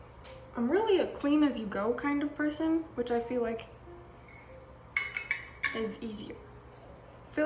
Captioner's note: measuring cups clanging